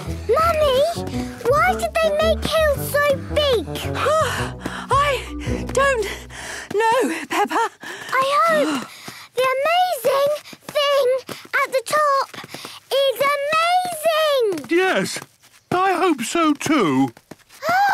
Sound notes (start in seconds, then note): 0.0 panting; 4.2 panting